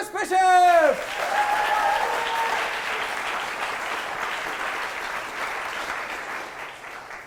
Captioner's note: audience applause